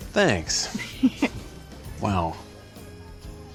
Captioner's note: giggles